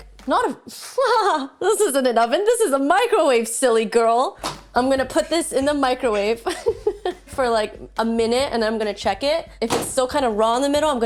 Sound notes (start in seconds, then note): 0.9 laughs; 6.1 laughs